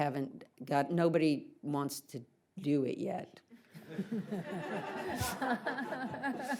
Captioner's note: audience laughs